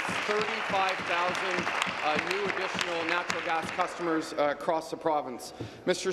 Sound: applause

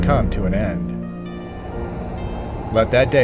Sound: wind blowing

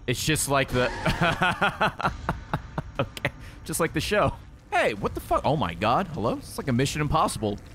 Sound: laughs

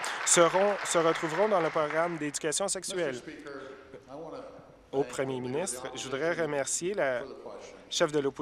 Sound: applause

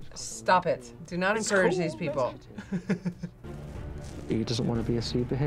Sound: chuckles

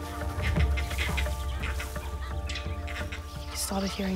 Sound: monkeys chatter

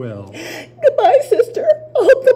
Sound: crying

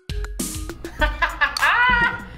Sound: laughing

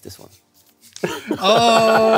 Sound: both laugh

